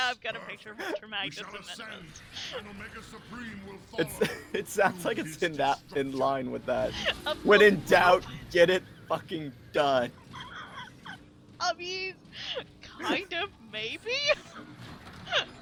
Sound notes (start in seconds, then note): 12.4 laughs